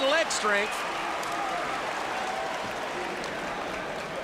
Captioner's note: crowd cheering; crowd chatter